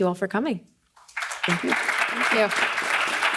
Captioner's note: audience applauding